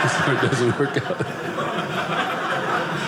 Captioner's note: audience laughing